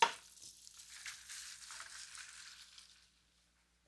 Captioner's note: food sizzles